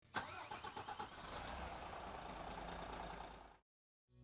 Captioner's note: engine starting